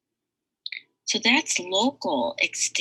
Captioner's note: mouse clicks